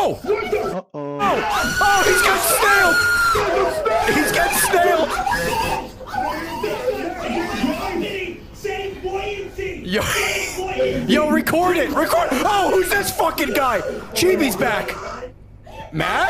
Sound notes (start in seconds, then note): 5.3 screams; 7.4 everyone screaming